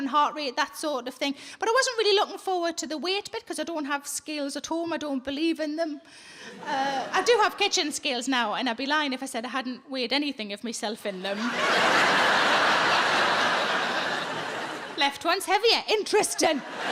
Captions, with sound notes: and heart rate, that sort of thing. But I wasn't really looking forward to the weight bit 'cause I don't have scales at home. I don't believe in them. I do have kitchen scales now and I'd be lying if I said I hadn't weighed anything of myself in them. (audience laughs) Left one's heavier. Interesting.